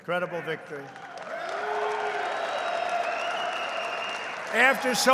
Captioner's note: applause